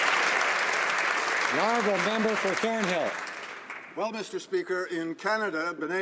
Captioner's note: some Applause